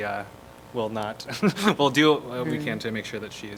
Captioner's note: laughter